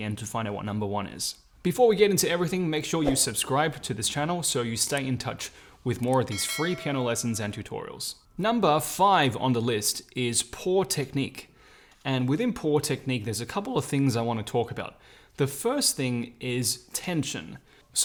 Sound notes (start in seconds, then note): 3.0 whoosh; 5.5 clicking; 6.3 bell dings